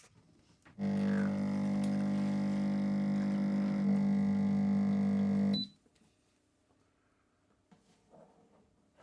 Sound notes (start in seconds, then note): 0.8 machine whirs; 5.4 machine beeps